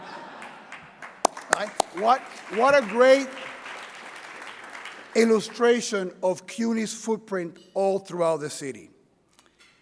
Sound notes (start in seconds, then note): 1.7 audience applauds